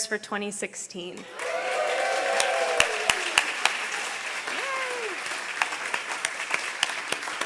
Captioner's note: audience applause